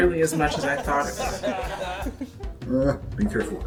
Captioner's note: laughter